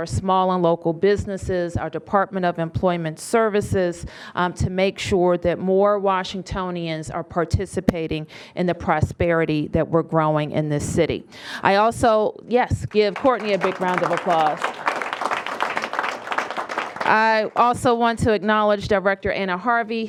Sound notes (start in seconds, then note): 14.8 applause